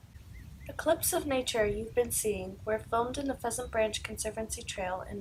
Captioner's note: nature and wildlife sounds